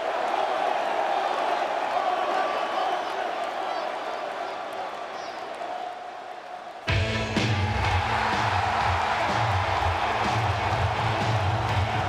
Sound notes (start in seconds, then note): 6.9 energetic rock music; 8.3 crowd cheers